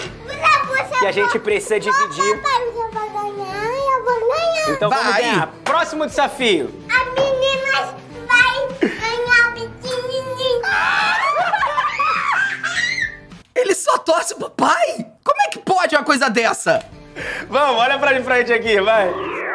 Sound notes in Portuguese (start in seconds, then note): 10.9 risadas; 12.6 gritando